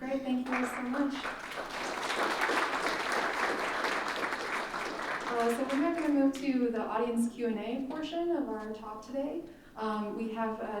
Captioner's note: applause